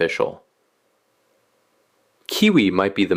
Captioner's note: pause